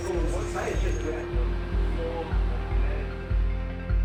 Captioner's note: chatter